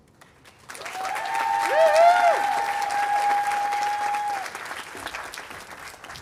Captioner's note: audience applauding and cheering